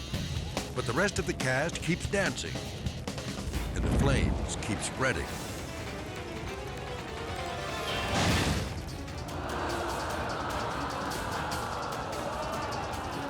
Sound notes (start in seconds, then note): 0.0 rock music; 2.5 rock music; 5.8 chaotic music; 5.8 fire blazing; 8.0 dramatic music; 8.1 fire exploding; 9.2 people screaming